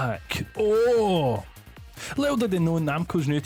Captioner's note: excitement